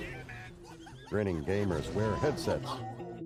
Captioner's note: laughter